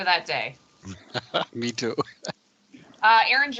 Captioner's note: laughing